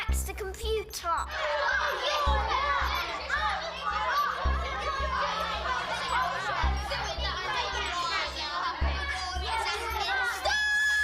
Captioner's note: shouting